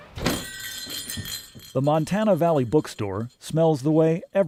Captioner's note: bells jingling